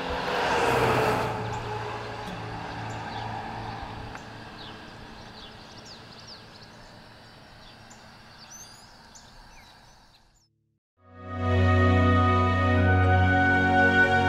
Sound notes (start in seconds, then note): 0.1 gentle guitar music; 4.9 birds chirping; 11.0 pleasant music